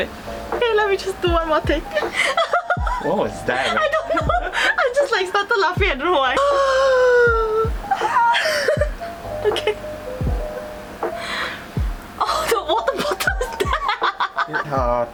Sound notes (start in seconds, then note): 6.4 audible gasp